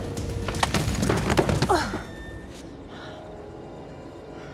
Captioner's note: grunts